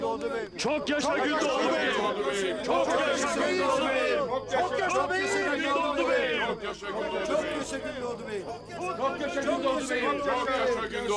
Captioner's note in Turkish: Hep bir ağızdan